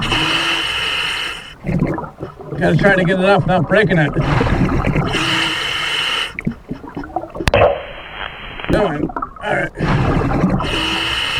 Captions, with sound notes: (water burbling) (regulating hissing) Gotta try to get it off without breaking it. (water burbling) (regulating hissing) All right.